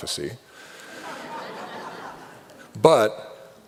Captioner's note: laughter